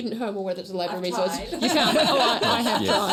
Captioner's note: laughter